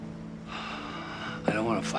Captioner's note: sighs